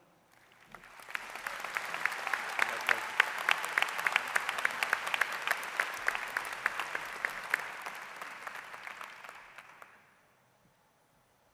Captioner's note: applause